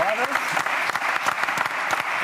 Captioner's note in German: Applaus